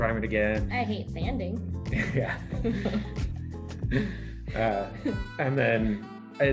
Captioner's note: laughter